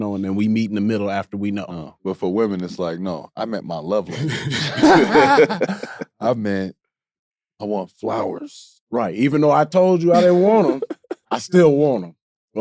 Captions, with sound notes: and then we meet in the middle after. - But for women, it's like, "No, I meant my love language." (group laughing) "I meant I want flowers." - Right, "Even though I told you, I didn't want 'em, I still want 'em."